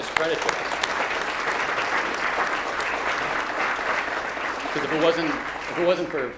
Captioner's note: audience applauding